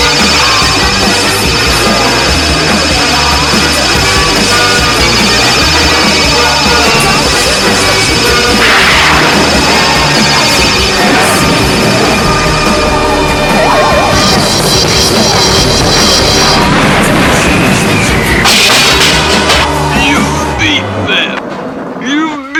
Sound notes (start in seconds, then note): 18.4 crash!